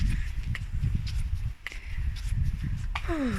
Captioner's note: wind